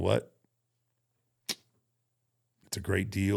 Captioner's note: clicks teeth